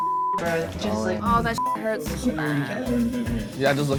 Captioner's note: beep